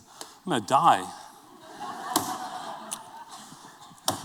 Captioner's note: laughter